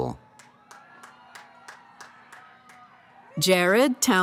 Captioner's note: cheering